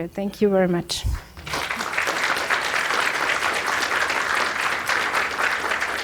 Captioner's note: audience applauding